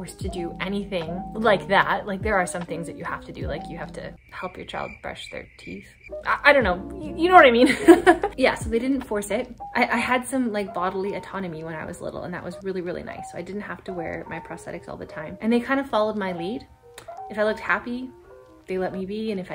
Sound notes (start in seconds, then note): 4.1 crickets chirping; 7.7 laughs